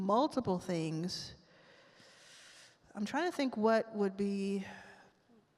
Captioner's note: inhales deeply